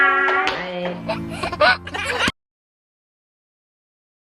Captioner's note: baby laughing